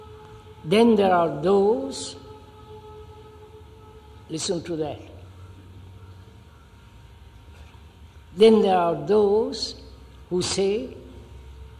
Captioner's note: sound of siren